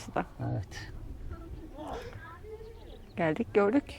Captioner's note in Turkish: none